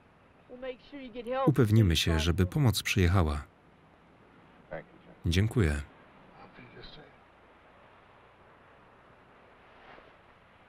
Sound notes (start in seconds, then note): none